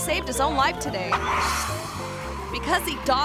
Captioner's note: tires screeching